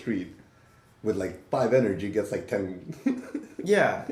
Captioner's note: laughs